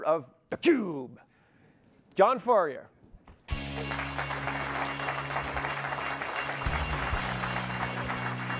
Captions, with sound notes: of theCUBE, John Furrier. (audience clapping) (electronic music)